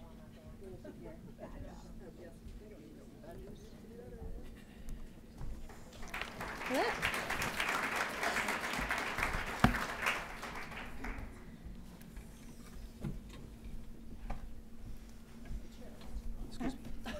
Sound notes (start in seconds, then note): 5.6 applause